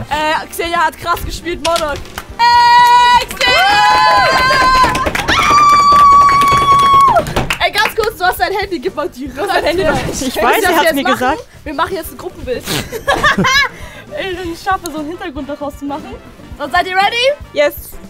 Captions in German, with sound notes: Xeniya hat krass gespielt, Mordor. Eeey, Xeniya! (Jubel, Trommeln, Kreischen) Ey, ganz kurz, du hast dein Handy. Gib mal dein Handy. - Direkt durch. Ich weiß, er hat's mir gesagt. Ich weiß, was wir jetzt machen. Wir machen jetzt ein Gruppenbild. Wenn ich es schaffe, so einen Hintergrund daraus zu machen.